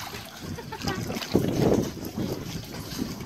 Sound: laughs

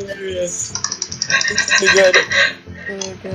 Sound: laughs

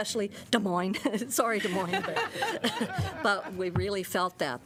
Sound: laughter

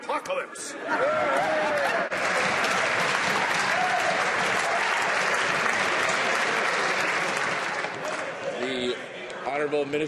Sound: cheers and applause

